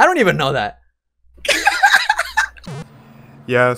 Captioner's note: laughs